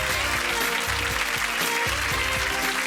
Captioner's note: audience clapping